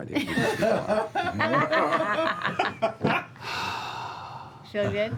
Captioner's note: laughter